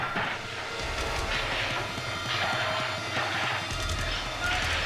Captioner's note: machetes smashing